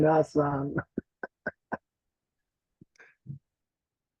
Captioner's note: chuckles